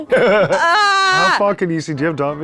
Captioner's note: laughs